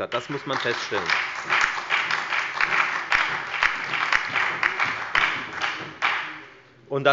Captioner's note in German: Beifall bei der FDP, der SPD sowie bei Abgeordneten der LINKEN